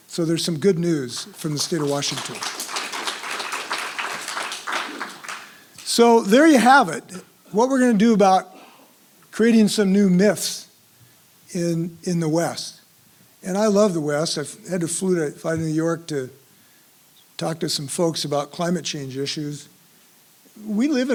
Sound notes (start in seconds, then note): 1.1 applause